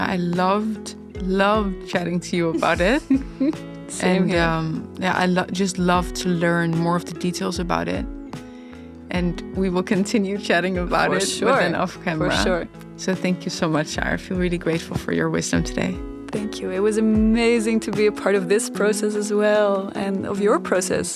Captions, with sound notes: I loved, loved chatting to you about it. (laughing) Same here. I just love to learn more of the details about it. And we will continue chatting about it off camera. For sure, for sure. So thank you so much, Saar. I feel really grateful for your wisdom today. Thank you, it was amazing to be a part of this process as well, and of your process.